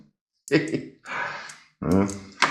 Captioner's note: sad laughter